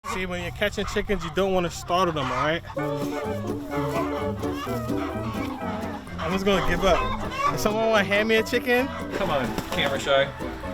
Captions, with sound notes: - See when you're catching chickens, you don't wanna startle them, all right? (bright upbeat music) (chickens clucking) I'm just gonna give up. Someone wanna hand me a chicken? - Come on, camera shy.